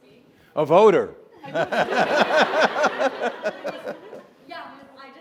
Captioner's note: Bob and audience laughing